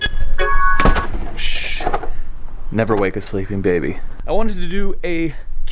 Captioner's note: shushes